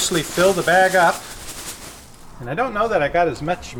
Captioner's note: leaves rustling